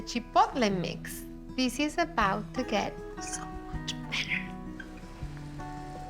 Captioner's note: whispers